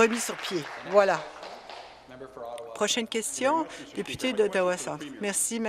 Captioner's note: applause